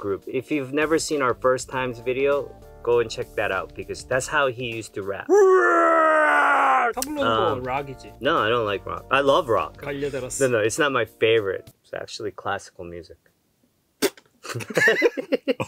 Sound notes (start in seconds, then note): 5.3 shouts; 7.0 speaking in Korean; 9.6 speaking in Korean; 14.4 laughs